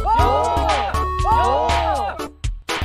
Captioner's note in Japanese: 興奮した